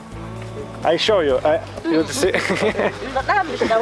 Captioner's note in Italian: Inglese